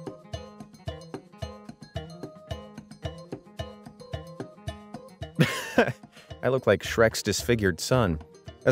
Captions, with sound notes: (narrator laughs) I look like Shrek's disfigured son.